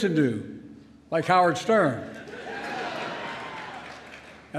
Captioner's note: laughter